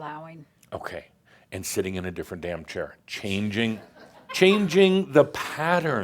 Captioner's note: some giggles